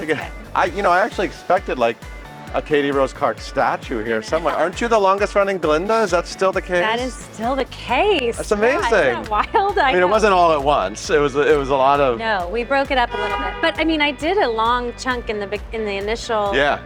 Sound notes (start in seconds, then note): 4.5 laughing; 12.9 car honking